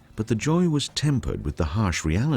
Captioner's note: voiceover